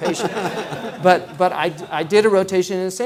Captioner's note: laughing